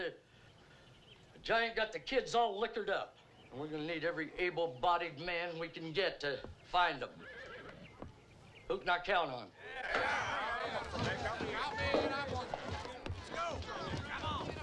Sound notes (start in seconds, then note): 9.5 men clamoring; 9.7 chairs scraping